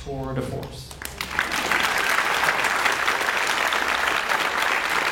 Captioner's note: audience applauds